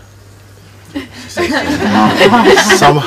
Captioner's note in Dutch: gelach